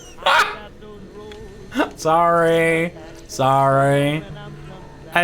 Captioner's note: laughs